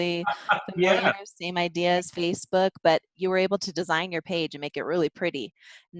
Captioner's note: laughs